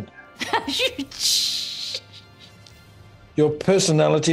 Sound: laughs

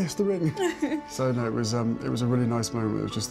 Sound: Meghan laughs

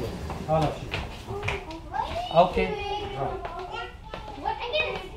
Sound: children playing

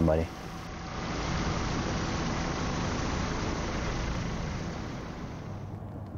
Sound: helicopter blades whirring

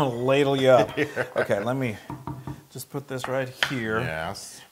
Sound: laugh

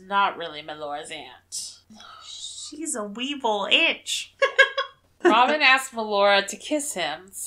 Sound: laughs

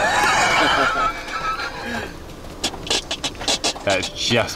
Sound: hearty laughing

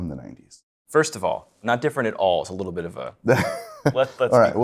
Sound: laughing

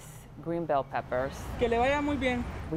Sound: man speaking foreign language

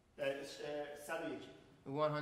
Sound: speaking in farsi

